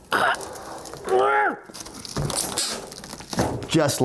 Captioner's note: grunts